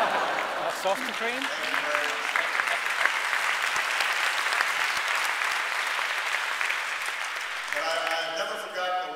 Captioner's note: laughter and applause